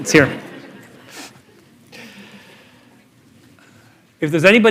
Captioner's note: laughter